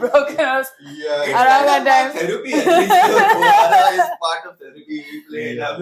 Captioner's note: laughs